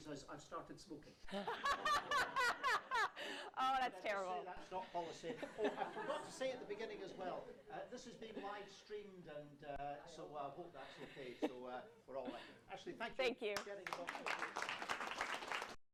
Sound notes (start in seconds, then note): 13.5 applause